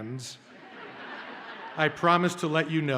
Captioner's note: audience laughs